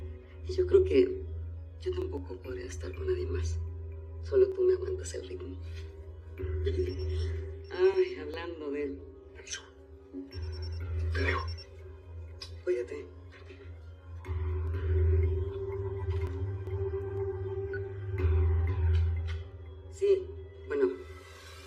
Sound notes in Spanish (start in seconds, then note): 6.7 Timbre del celular